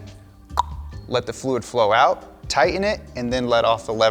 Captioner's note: tongue clicks